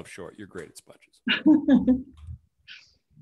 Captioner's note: chuckles